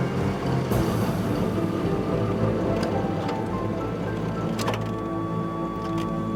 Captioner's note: suspenseful music continues; engine rumbling; suspenseful music continues